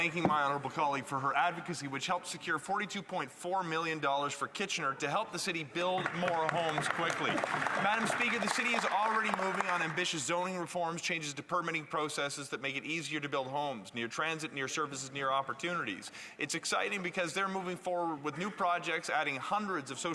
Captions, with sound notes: minister of housing. >> Madam Speaker, I want to begin by thanking my honourable colleague for her advocacy, which helps secure $42.4 million for Kitchener to help the city build more homes quickly. [Some Applause] Madam Speaker, the city's alreadyive moving on ambitious zoning reforms, changing to permitting processes that make it easier to build homes, transit near services and new